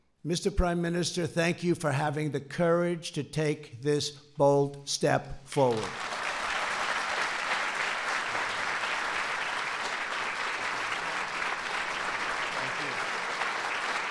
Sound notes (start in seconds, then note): 5.6 applause